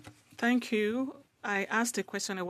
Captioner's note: speaking French